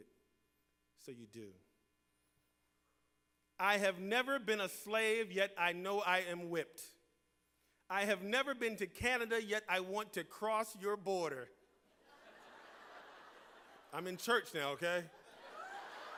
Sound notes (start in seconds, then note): 11.9 laughter